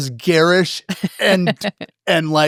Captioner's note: laugh